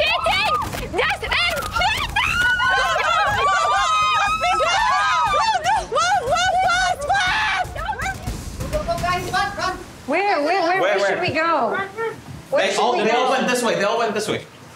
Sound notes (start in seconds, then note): 2.8 girls shouting